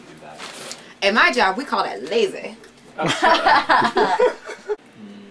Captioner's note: laughing